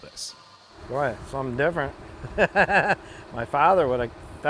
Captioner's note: laughs